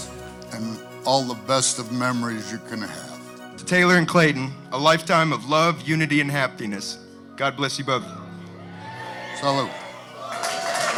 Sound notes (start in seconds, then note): 8.2 crowd cheering